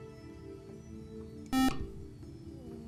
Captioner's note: buzzer